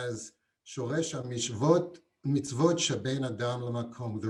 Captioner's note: non-english